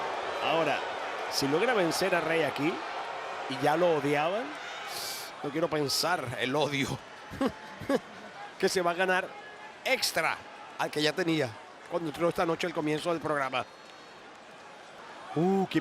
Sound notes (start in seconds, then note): 7.3 laugh